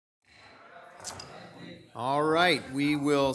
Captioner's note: people chattering